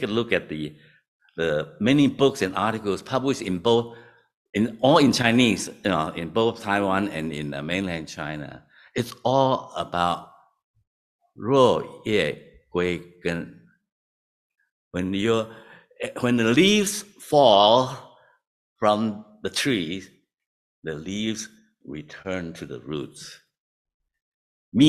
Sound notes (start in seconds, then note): 11.8 non-english